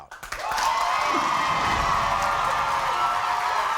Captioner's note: crowd cheering